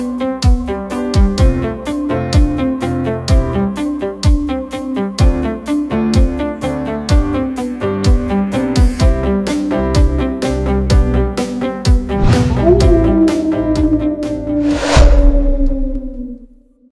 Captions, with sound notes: One of the nation's top universities for exceptional graduate programs - U.S. News and World Report, 2021 CSUSB has been recognized for its graduate programs in public affairs, public health and part-time MBA [Coyote howl] [Coyote howl] We Define the Future [Coyote howl] inside.csusb.edu